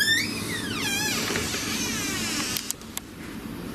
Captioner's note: door creaks